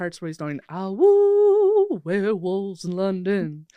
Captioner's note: mimicking wolf howling